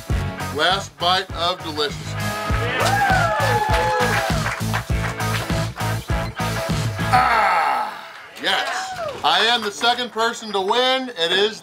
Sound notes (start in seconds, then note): 2.4 crowd cheers, applauds; 2.6 funky rock music